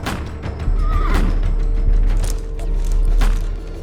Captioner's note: horse neighing